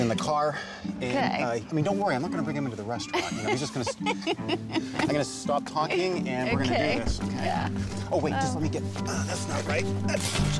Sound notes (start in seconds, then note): 3.1 laughing